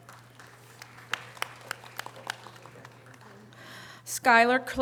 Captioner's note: audience applause